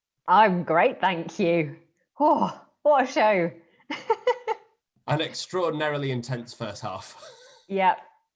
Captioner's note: laughs